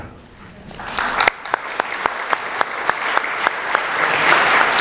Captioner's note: applause